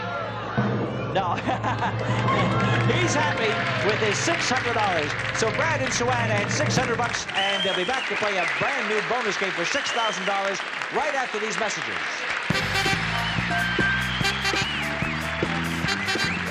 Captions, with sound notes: No. (laughs) He's happy with his $600 so Brad and Suanne add 600 bucks and they'll be back to play a brand new Bonus Game for $6,000 right after these messages. (upbeat music) (audience cheering)